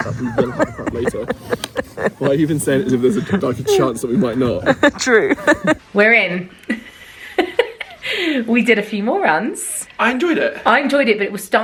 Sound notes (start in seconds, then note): 0.0 laughs